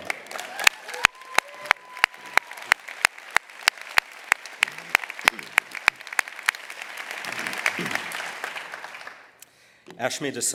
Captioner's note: applause